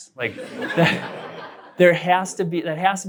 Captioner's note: laughter